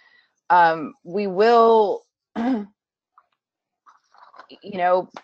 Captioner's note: clears throat